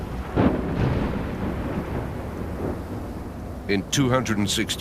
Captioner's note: thunder rumbles